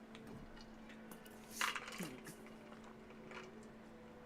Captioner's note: dice rattling softly